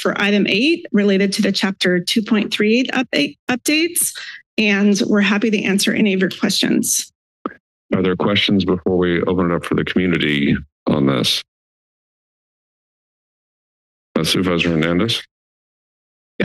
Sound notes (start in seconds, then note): 11.5 silence